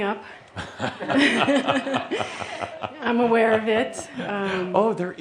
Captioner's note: they chuckle